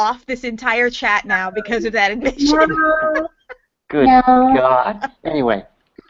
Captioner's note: laughs